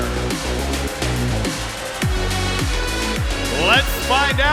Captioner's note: cheers and applause